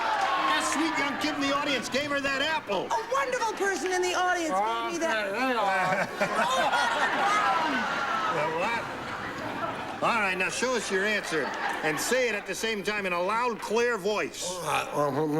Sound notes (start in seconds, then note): 6.2 mouth full